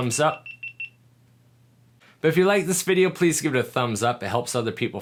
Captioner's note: camera beeps